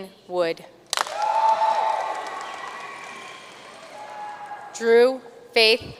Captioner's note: audience cheering and applauding